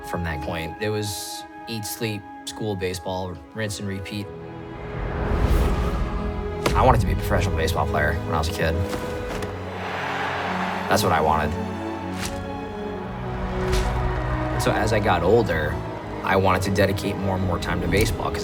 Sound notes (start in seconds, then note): 10.0 fans cheering